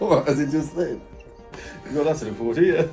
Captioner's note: laughs